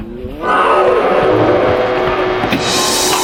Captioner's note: growling